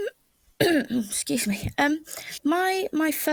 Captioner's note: cough